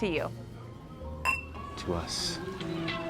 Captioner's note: upbeat music; glasses clinking